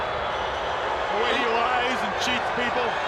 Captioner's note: crowd cheering